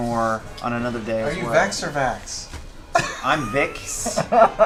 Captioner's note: laughs